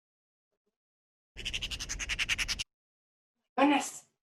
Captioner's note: raven chatters